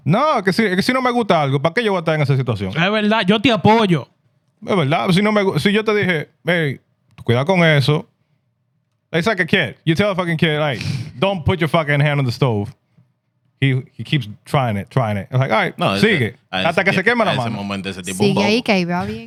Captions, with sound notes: No, I can see. (Speaking In Foreign Language) No, but la, (Speaking In Foreign Language) It's like a kid. You tell a fucking kid, like, don't put your fucking hand on the stove. He keeps trying it, trying it. And like, all right, see you. (Speaking In Foreign Language)